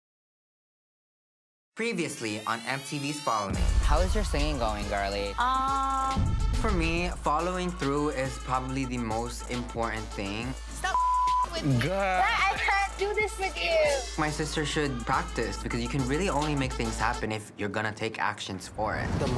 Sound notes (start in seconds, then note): 10.9 beep sound